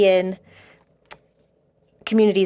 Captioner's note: speaking French